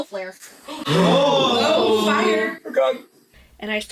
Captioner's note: shock noises